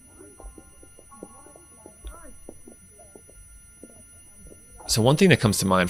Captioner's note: crowd chattering